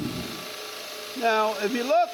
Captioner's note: saw sounds